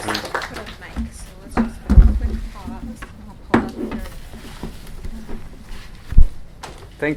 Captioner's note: background chatter